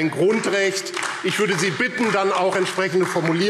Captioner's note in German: Beifall AfD